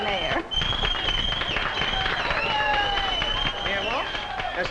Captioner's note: group clapping; group whistling